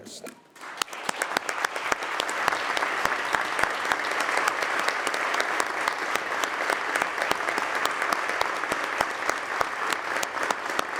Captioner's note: applause